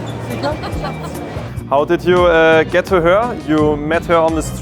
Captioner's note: laughter